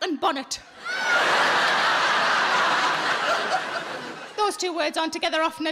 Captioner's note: audience laughing